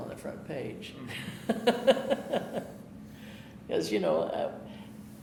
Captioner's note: laughing